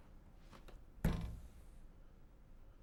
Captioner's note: gentle thud